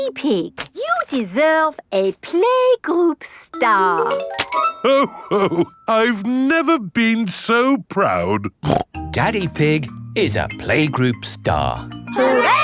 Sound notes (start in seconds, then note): 8.6 snorts